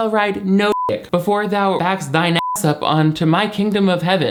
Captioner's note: beep; beep